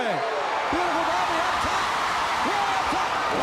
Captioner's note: crowd cheering